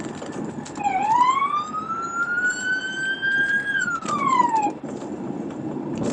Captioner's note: police siren wailing